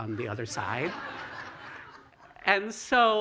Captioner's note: laughter